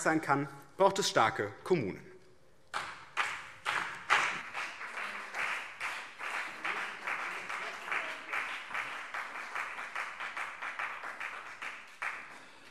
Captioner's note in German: Beifall BÜNDNIS 90/DIE GRÜNEN und CDU